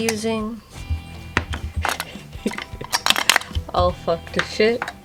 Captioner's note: giggle